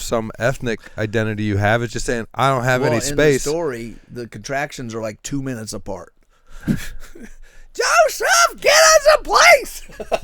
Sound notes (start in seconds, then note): 9.8 laughs